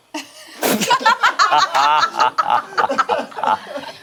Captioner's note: group laughs